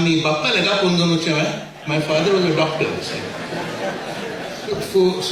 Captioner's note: laughingly